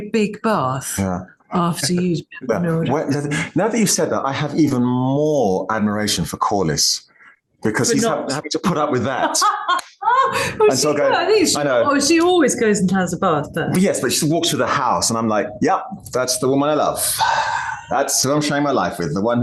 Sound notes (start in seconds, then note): 13.4 laughs